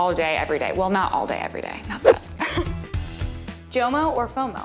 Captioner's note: laughs